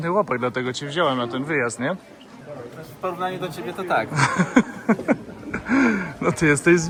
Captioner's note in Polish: śmiech